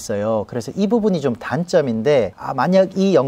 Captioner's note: as Korean